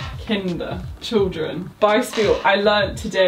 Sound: speaking in foreign language

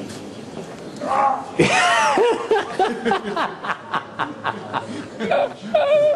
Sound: laughs

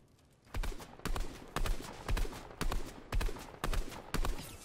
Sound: gun firing

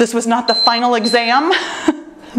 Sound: timer beeps

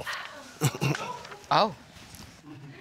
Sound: chuckles

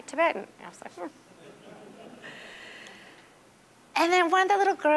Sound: audience laughing

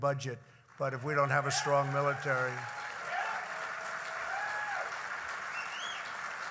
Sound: applause

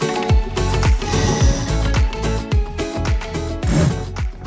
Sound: rope whirring

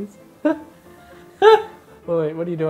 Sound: laughing

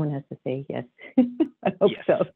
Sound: laughs

